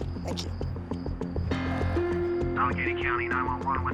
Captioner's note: on phone